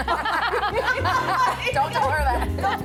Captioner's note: laughter